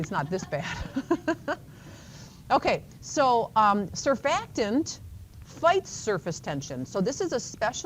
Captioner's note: chuckles